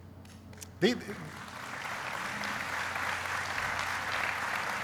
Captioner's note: applauding